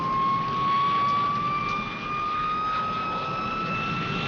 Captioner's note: plane engine building intensity